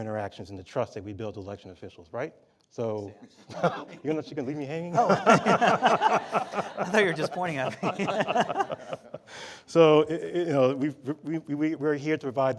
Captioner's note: laughter from panel and audience